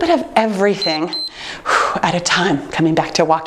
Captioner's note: timer beeps